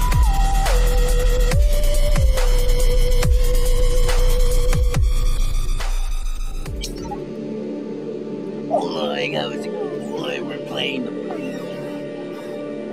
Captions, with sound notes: *Shaggy Impression* Like we are playing the Purge